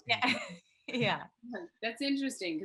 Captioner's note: Sarah laughs